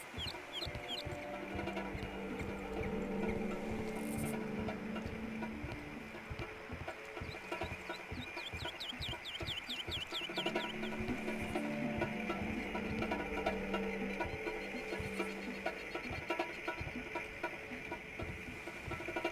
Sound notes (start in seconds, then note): 0.1 tense music; 3.8 birds chirping; 3.9 tense music; 7.1 birds chirping; 7.1 tense music